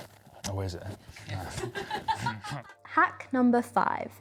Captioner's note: laughing